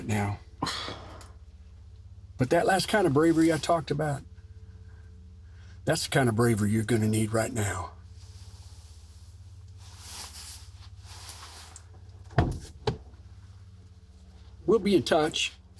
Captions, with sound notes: that's the kind of bravery you're gonna need right now. (door opens) We'll be in touch. Y'all enjoy the rest of your lunch.